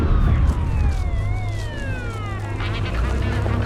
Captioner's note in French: Sirènes, bavardages policiers